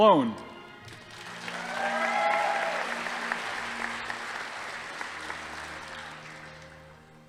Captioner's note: audience applauding; crowd cheering